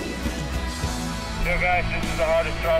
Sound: man on radio

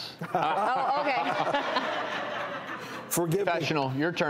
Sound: audience laughs

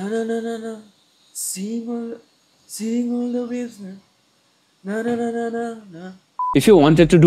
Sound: humming the random tunes

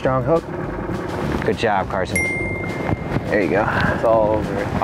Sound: bell ringing

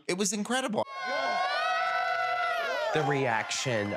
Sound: crowd cheering

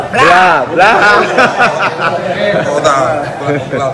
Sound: laugh

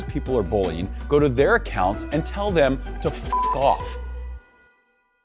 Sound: beeps

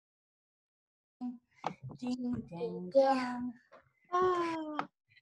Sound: silence; baby cooing

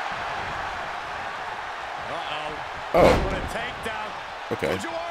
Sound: applause

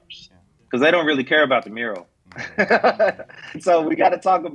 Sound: laughs

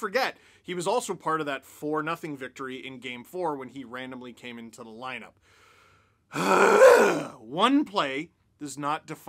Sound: aggravated sigh

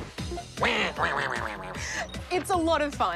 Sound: quacks

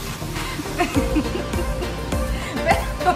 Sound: laughing

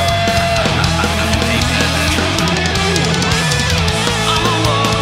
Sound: laughs

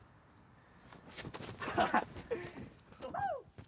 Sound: laughter

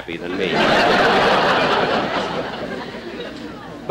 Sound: audience Laughing

